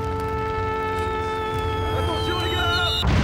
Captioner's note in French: Bruit de bombardiers qui passent